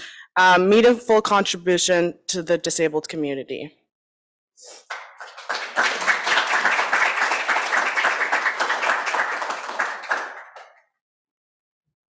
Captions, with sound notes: and their meaningful contributions to the disabled community. (applause)